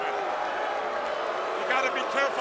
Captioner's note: crowd cheering